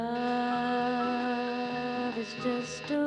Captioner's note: kapı zili vızıltı